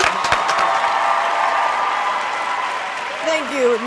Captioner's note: audience applauds; group applauds